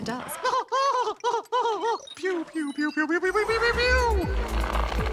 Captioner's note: laughs excitedly